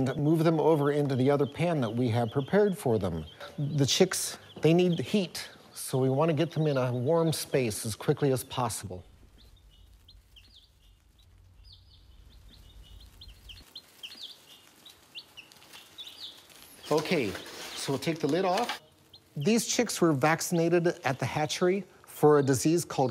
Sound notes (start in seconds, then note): 9.0 pause